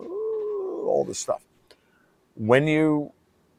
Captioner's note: imitates screaming